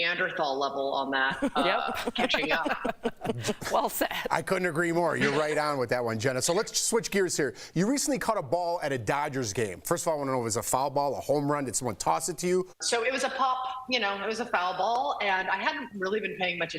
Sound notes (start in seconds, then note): 3.9 laughter